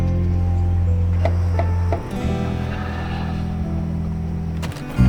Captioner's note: knocking on door